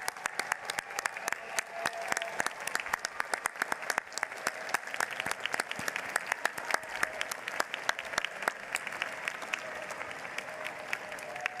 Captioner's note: applause